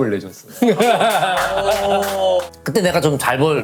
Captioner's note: giggling